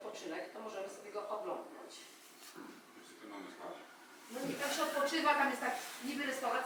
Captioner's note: distant speaking in foreign language